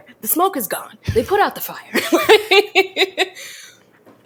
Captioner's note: laughs